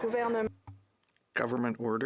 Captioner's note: speaking French